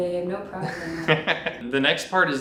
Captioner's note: laughs